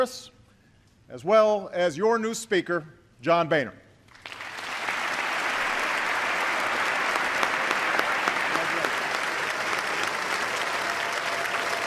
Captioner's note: applause